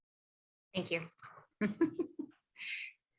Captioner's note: laughs